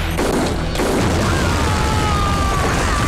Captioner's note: Explosion